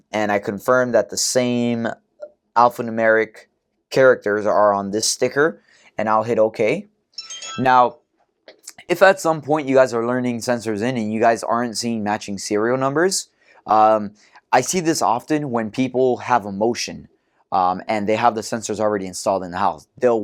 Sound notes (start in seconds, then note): 7.2 chime